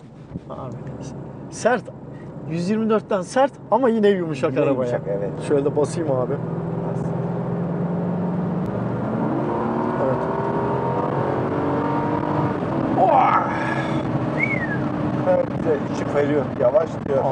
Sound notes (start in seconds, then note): 12.8 roaring; 14.3 whistling